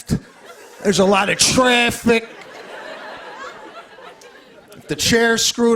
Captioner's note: laughter